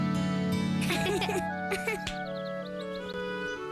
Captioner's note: giggle